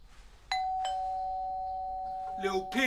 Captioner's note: doorbell